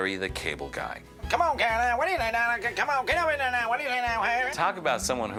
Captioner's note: speaking gibberish